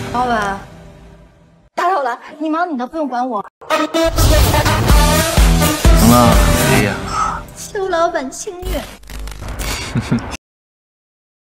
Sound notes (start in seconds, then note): 9.6 Bo Hai chuckles